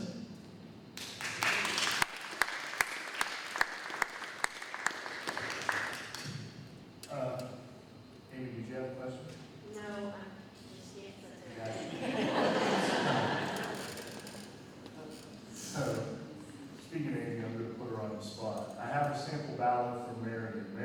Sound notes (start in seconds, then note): 0.9 applause; 11.6 laughter